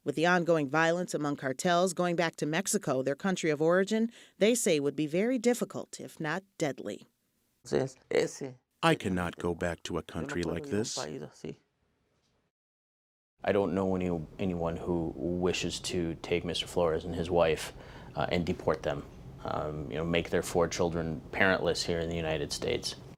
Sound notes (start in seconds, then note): 7.6 through translator